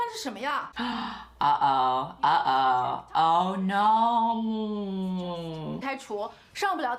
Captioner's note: gasp